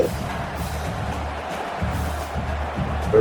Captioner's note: crowd Noises